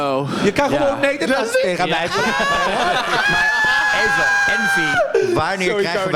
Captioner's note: gaggle gaggle scream